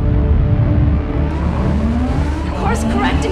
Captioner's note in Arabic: رنين إنذار